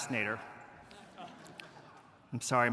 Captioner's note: audience laughing